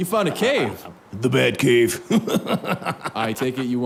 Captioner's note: laughs